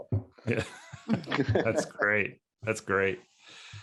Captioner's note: speakers laughing